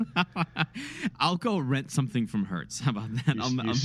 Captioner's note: laughs